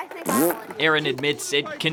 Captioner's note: blows raspberry